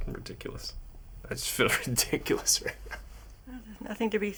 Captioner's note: laughing